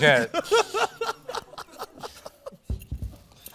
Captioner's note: nero laughs